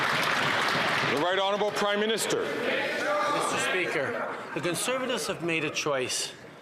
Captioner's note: some Applause